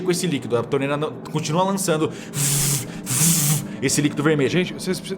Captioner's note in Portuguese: vuuh vuuh